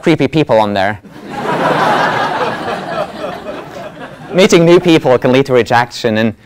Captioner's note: laugh